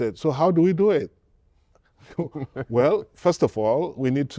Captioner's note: laughter